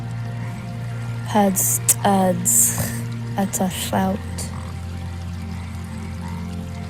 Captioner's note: narrator continues speaking in foreign language